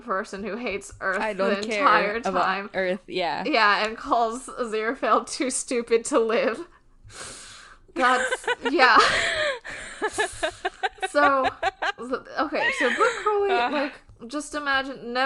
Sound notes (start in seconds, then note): 8.0 laughing